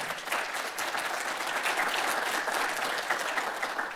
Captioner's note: audience applauding